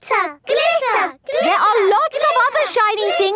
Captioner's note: chanting